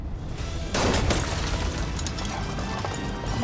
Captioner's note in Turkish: Cam kırılma sesi